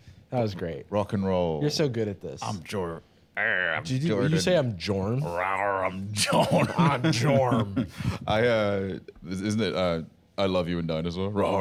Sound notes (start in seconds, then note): 3.6 growls